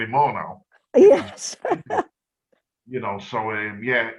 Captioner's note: chuckles